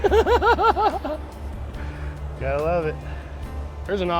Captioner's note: laughing